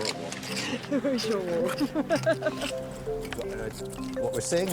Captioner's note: laughs